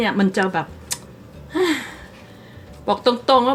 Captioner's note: sigh